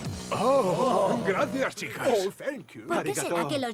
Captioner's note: speaking foreign languages